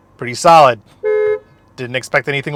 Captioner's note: car horn honking